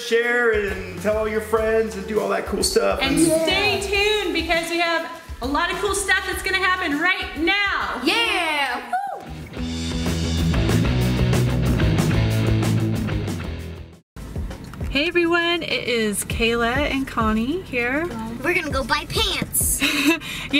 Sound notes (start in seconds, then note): 9.0 cheering; 9.3 upbeat rock music